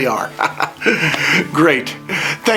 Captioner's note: laughs